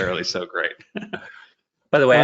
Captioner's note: laughter